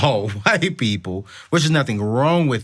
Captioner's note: chuckles